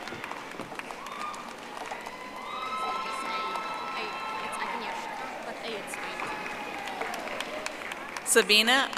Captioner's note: audience applauding